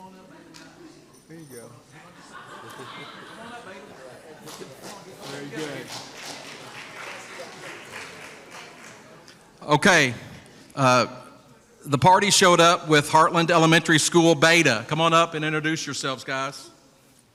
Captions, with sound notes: (indistinct background chatter) There you go. (indistinct background chatter) (applause) Very good. Okay. The party showed up with Heartland Elementary School Beta. Come on up and introduce yourselves, guys.